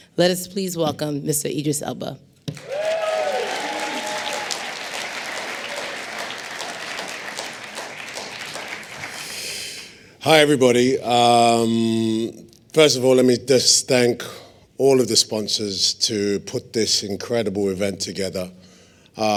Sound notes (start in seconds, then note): 6.2 applause